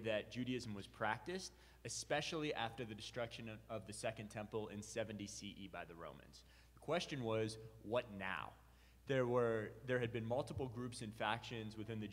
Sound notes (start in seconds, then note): none